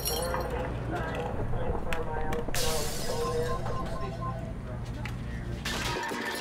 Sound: glass smashes; radio chatter

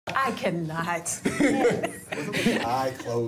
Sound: all laughing

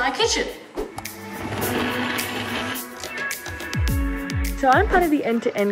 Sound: bright music; blender whirring

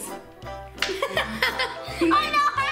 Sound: giggles

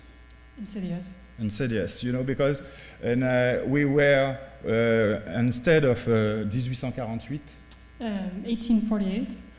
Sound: speaking french

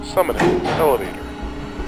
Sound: elevator moving

